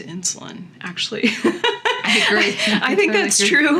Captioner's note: laughing